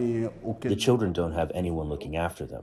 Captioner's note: through translator